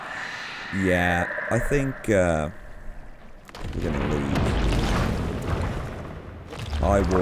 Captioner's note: even more shrieker noises; sound of Warden being summoned